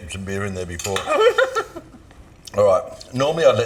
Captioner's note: giggles